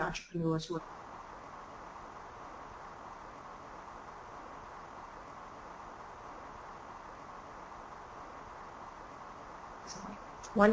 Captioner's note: static